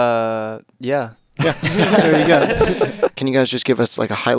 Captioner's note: everyone laughing